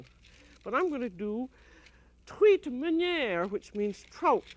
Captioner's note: speaking french